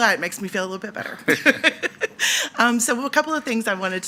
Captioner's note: laughing